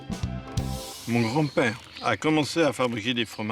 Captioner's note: speaks french